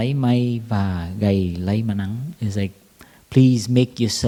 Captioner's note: Vietnamese